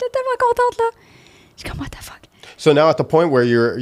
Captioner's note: in french